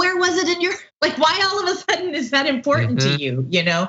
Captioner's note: laugh